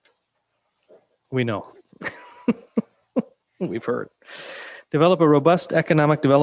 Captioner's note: laughing